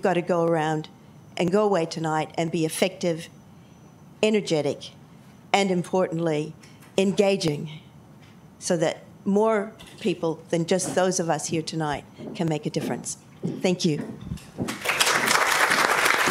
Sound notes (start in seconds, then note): 14.7 applause